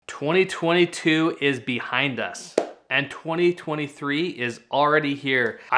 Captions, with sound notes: - 2022 is behind us, (hands clap) and 2023 is already here.